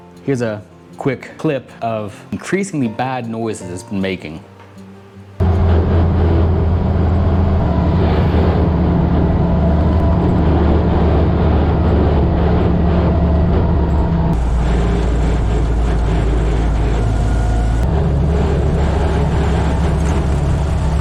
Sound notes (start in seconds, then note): 5.4 differential grinds unhappily